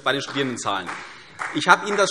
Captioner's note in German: Vereinzelter Beifall CDU